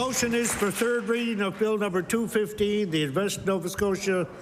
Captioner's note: applause